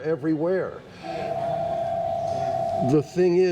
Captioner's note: phone ringing in background